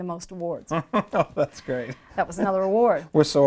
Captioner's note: laughing